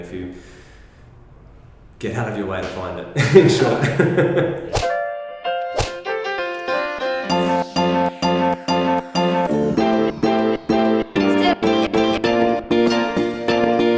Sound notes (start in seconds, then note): 3.7 laughing; 5.6 upbeat music